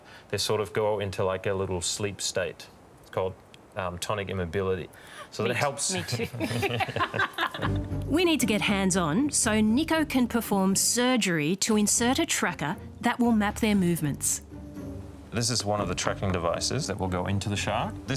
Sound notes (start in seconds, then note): 5.8 laughter